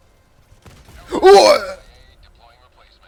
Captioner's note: wuuuaahg